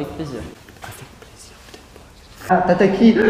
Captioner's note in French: En chuchotant